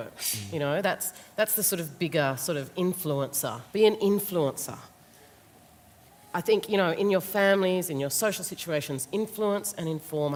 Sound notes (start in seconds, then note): none